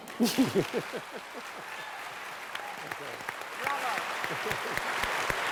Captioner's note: applause